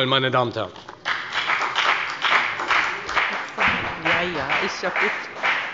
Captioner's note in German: Beifall bei der FPD